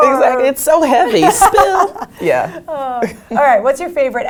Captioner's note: laugh